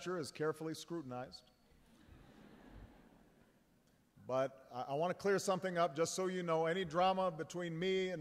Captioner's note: laughter